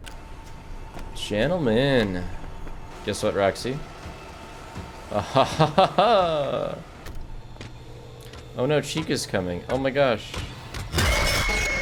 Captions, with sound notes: Gentlemen. Guess what Roxy? (Laughs) Oh no, Chica's coming. Oh my gosh.